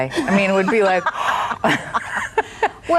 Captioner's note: gasps